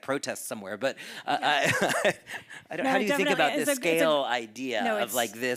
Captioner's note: chuckles